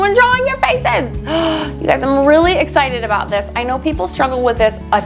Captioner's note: gasping